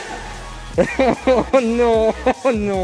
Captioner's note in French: rires